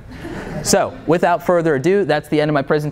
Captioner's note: laughter